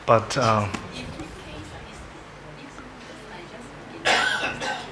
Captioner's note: woman speaks off mic